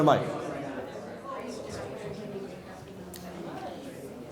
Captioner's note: audience murmurs